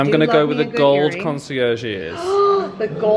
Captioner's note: gasps